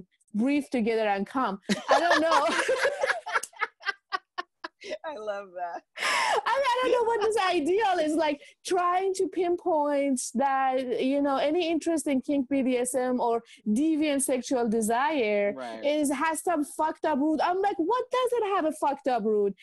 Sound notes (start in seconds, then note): 1.7 laughing